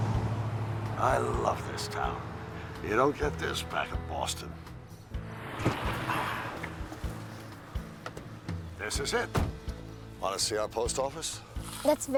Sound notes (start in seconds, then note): 6.1 Bill sighs